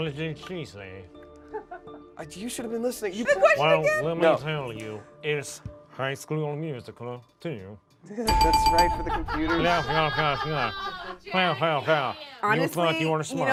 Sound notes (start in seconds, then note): 8.3 buzzer rings; 8.8 laughs robotically